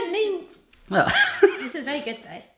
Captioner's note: laughs